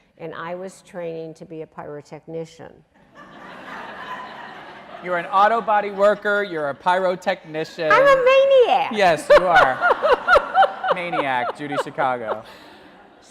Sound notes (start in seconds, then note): 3.2 audience laughing; 9.0 laughing